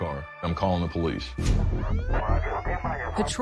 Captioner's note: siren wailing